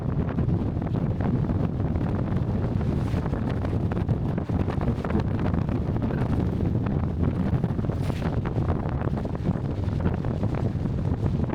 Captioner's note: wind